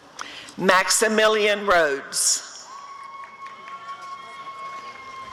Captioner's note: applause and cheering